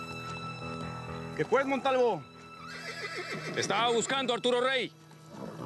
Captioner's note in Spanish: relinchos